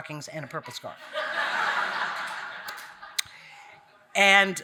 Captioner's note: audience laughing